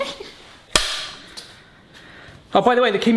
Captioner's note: both laugh; clapperboard snaps